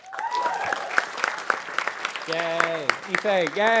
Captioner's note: audience cheering and applauding